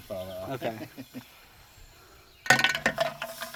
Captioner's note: laughing